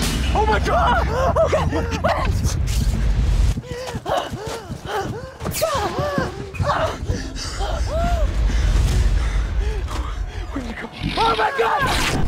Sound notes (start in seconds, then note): 2.9 both breathing heavily; 11.2 both screaming